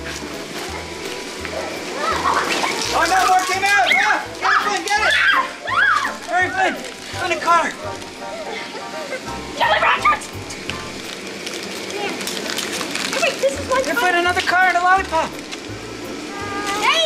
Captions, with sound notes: (children chattering) - Oh no, more came out, oh get it! - Flynn, I found a car (children muttering) Look Flynn another car and a lollipop